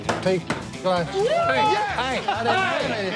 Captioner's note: man whooping